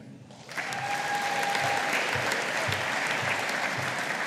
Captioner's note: audience applauding